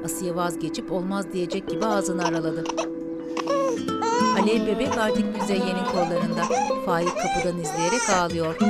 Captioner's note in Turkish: Bebek ağlama sesi; Müzik - Duygusal